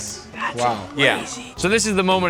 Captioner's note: whispers